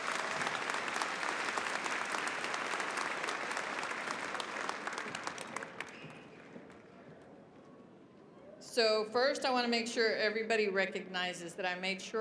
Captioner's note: applause